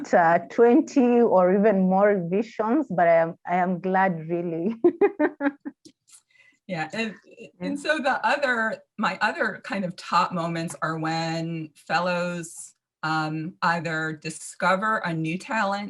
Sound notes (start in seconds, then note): 4.6 laughs